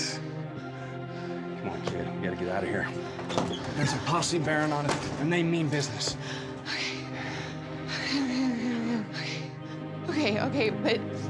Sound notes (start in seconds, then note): 2.7 opens door; 8.8 mumbling, nervously panting